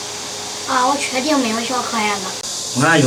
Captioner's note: flies